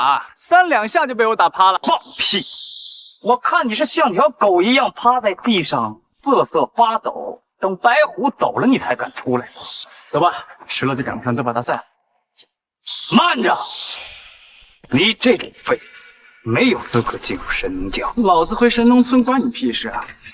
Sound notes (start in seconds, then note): 16.8 surprised